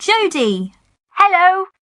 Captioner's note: on phone